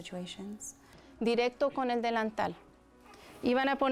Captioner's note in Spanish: Speaking Spanish